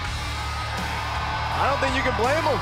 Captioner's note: cheers & applause